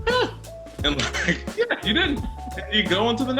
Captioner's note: laughs